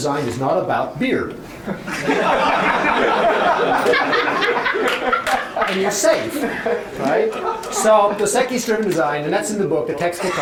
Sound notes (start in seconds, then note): 1.6 laughter